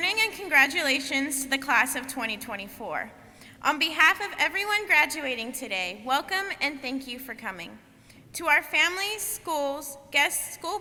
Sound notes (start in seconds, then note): none